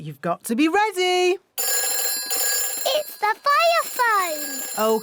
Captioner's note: phone rings